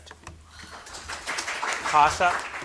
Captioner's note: audience clapping